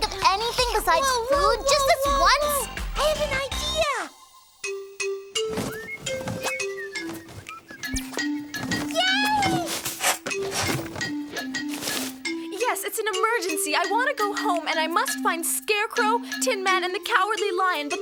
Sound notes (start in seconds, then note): 1.0 Tessa exclaiming; 5.6 whistling; 10.1 thuds